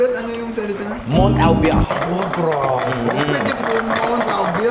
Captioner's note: speaks gibberish